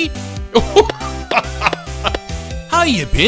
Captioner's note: laughing